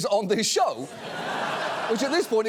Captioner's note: studio audience laughs